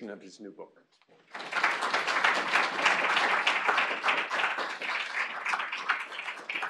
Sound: applause

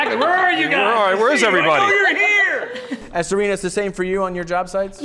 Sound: all laugh

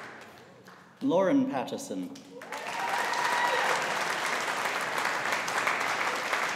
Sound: audience applauding

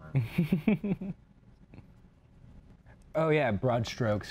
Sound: laughs

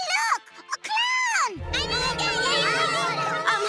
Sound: clamoring

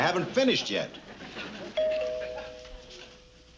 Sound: doorbell rings

